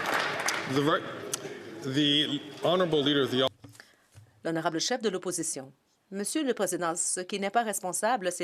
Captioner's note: some Applause